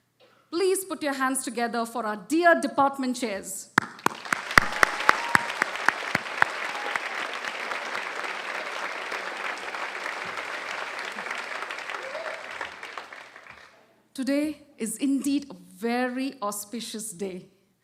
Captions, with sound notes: Please put your hands together for our dear department chairs. [ Applause ] Today is, indeed, very auspicious day,